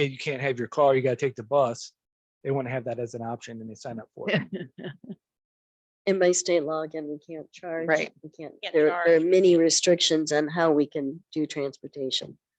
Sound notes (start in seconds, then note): 4.3 laughs